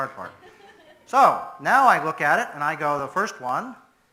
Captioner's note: audience laughs